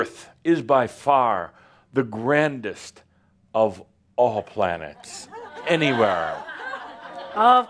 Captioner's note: some laughter